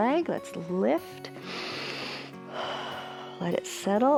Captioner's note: inhales and exhales